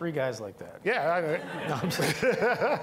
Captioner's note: all laughing